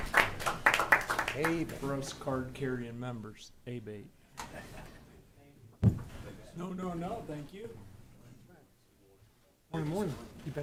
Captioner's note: applause